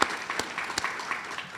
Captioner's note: audience applauds